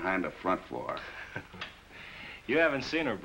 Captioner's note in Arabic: ضحك